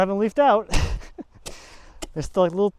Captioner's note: shovel taps